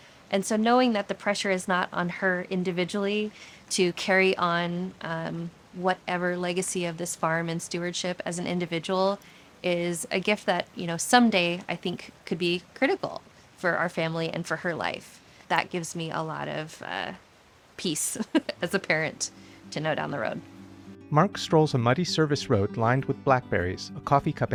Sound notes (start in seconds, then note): 18.2 chuckles; 21.8 tender music break